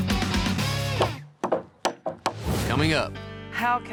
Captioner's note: hammering